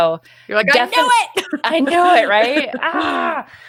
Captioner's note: laughs